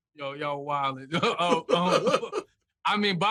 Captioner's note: laughter